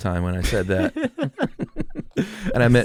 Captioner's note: laughing